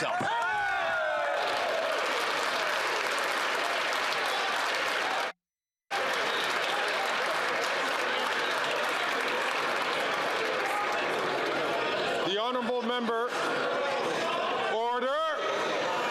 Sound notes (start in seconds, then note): 5.9 some Applause